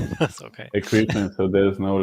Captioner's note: laughing